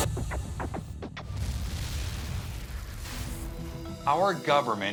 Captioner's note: explosion